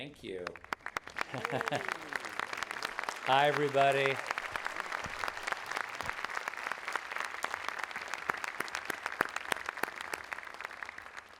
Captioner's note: audience applauding